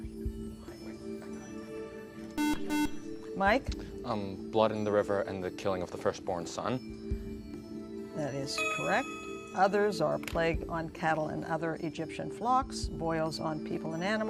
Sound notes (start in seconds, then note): 2.4 beep